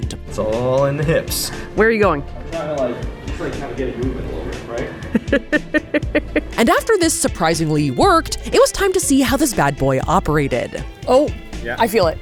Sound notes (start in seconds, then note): 5.1 laughs